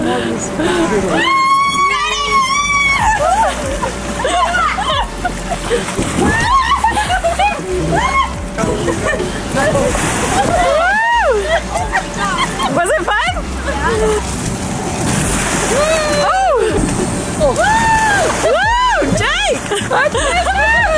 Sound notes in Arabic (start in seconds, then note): 1.1 امرأة تصرخ